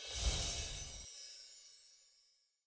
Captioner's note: magic spell sound again